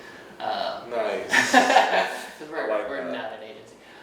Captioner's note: laughing